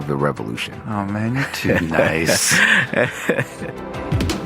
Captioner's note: laughter; upbeat music